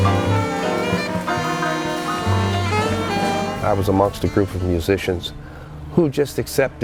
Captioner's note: cheering, applause